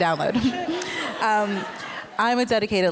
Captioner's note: laughter